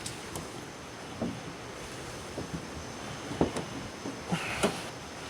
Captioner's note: car hood softly clanks